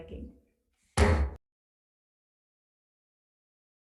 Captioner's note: gavel bams